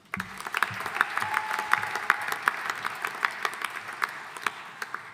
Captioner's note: audience applauding